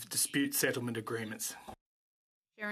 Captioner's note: speaking French